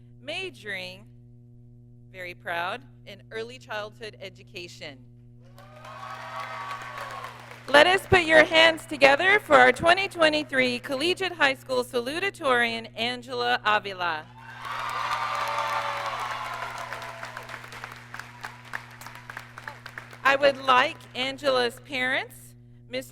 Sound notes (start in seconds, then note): 5.5 audience cheers; 14.3 audience cheers and applauds